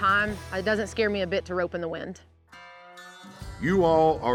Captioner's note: none